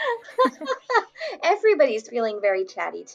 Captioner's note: laughs